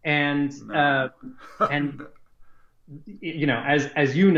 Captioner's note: laughs